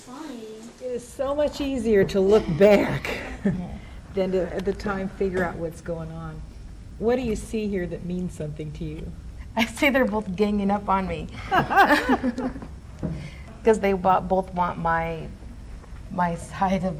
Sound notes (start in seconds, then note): 11.4 laughs